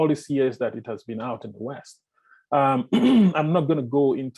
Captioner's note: clear throat